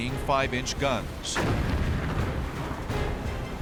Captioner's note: explosions